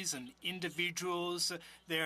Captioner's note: speaking French